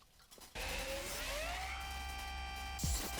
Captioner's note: machine whirring